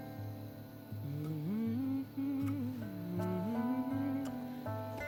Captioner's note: humming